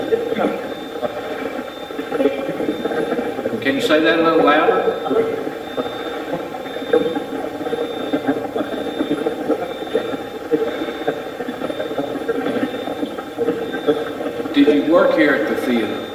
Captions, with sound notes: Can you say that a little louder? (Steve's Box chatters) Did you work here at the theater?